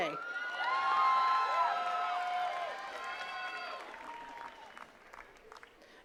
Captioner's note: attendees cheering and clapping